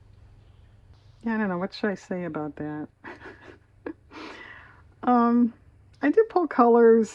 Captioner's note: laughs